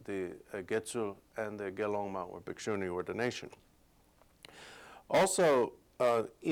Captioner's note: non-english speech